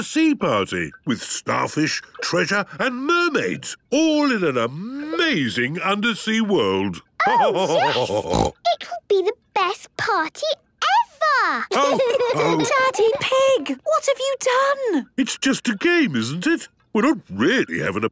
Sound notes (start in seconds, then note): 7.2 laughter and snorting; 11.7 laughter